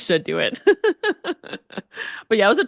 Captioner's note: laughs